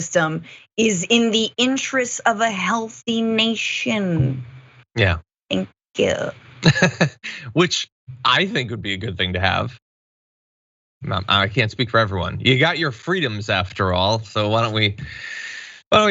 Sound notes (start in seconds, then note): 6.4 laugh